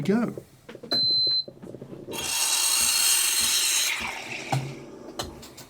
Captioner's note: machine beeps twice & wand steams